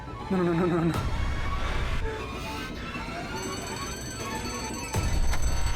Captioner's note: eerie sounds; clock ticking